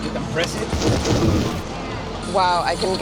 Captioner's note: electric shock